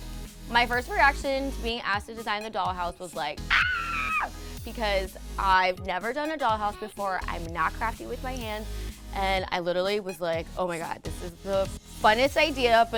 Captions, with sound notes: My first reaction to being asked to design the Dollhouse was like, ahh (screeches), because I've never done a dollhouse before, I'm not crafty with my hands. And I literally was like, oh my god, this is the funnest idea